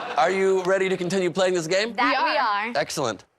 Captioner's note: laughter